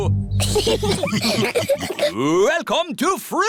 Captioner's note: laughter